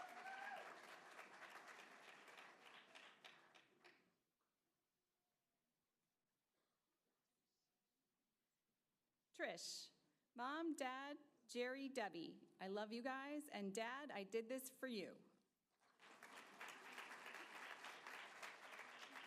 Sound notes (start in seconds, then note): 4.4 applause